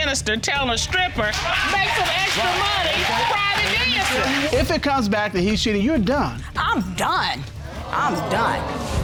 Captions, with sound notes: telling a stripper, "Make some extra money private dancing." [applause] If it comes back that he's cheating, you're done. I'm done. I'm done.